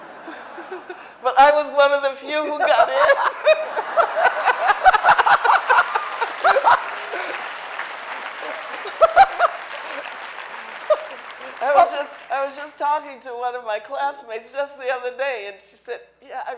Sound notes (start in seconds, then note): 0.0 audience laughing; 3.8 audience applauding